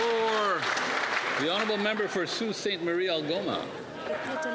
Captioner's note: cheering and Applause